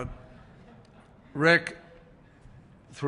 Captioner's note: laughter